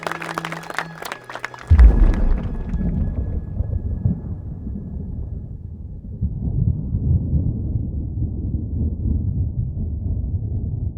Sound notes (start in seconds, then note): 1.6 thunder rumbling